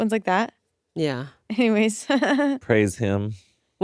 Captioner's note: laughs